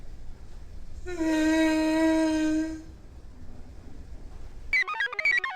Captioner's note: Patient #6 groans; computer chirps